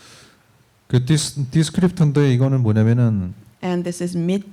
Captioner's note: speaking korean